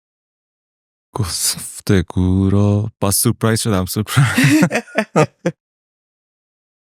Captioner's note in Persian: خنده